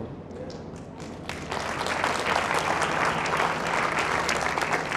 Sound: audience applauding

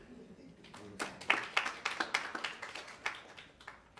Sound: attendants clapping

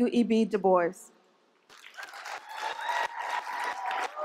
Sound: applause

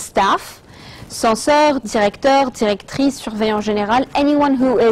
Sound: speaking in French

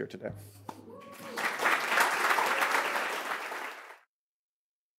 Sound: audience applauds

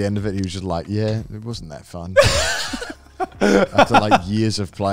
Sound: laughing

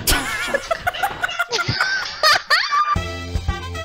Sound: laughs; they're laughing

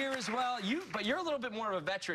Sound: cheers and applause

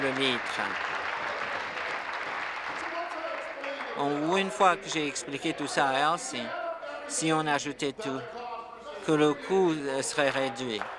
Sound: applause

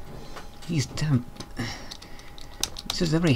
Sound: sigh

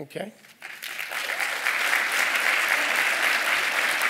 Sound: applause

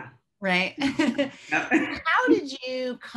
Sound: laughing

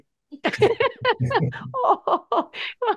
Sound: laughing

